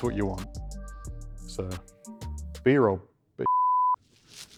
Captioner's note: beep